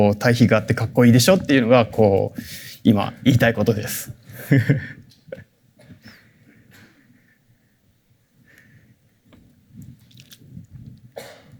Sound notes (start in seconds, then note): 4.4 chuckles; 6.6 silence